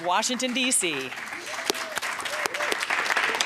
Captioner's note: applause